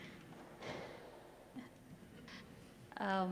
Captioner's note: breathing